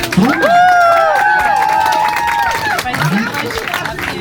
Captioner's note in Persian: صدای تشویق